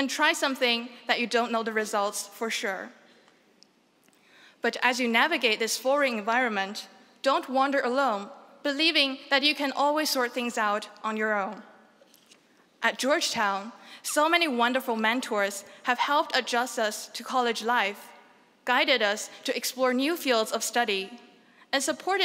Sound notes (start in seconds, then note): none